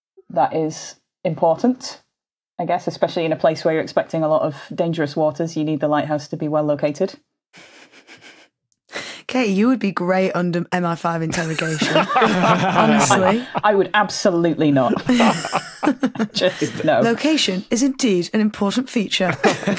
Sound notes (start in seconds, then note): 7.6 snickers faintly; 11.4 others laughing; 14.5 laugh